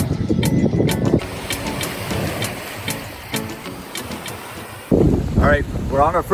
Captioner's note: soothing music; waves sloshing